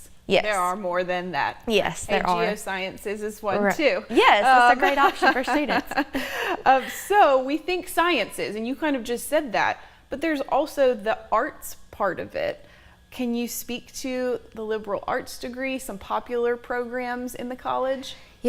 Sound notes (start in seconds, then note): 3.7 laughs